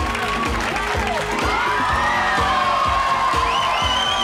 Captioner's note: audience cheers